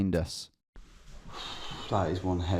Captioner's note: exhaling